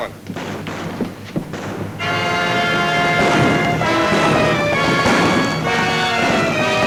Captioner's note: guns bang; exciting music